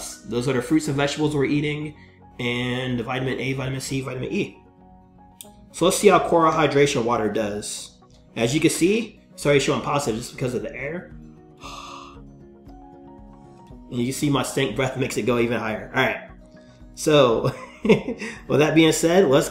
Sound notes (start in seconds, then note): 11.5 air whooshing from mouth; 17.1 laughs